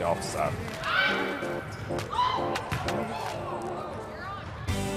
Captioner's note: cheers